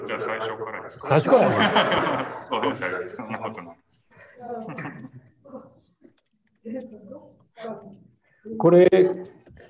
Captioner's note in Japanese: 笑い